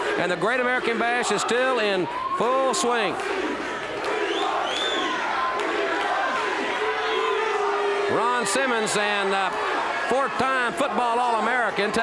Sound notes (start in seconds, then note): 3.1 audience chanting; 7.4 audience jeers